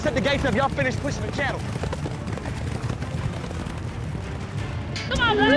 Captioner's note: hoof beats; shouting, hoof beats